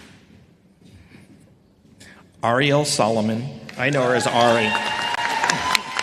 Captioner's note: applause